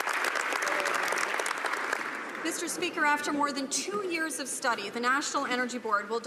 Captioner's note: some Applause